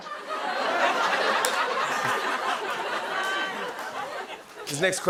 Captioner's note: laughter